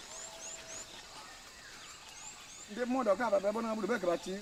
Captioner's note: man speaking native language